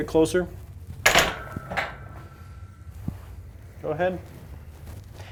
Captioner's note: metal clunking